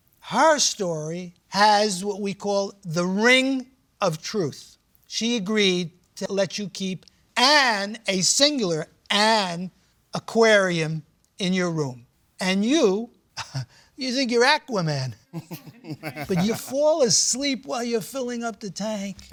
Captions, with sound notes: her story has what we call the ring of truth. She agreed to let you keep an, a singular, an aquarium in your room. And you-- [chuckles] you think you're Aquaman. [laughter] But you fall asleep while you're filling up the tank.